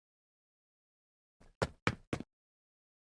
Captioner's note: duck feet walking